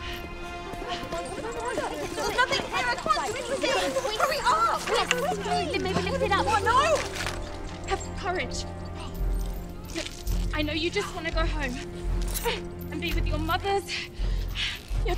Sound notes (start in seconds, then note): 2.4 prisoners panic